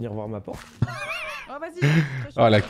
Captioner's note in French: rire